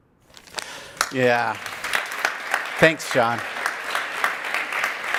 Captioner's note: video ends, audience applause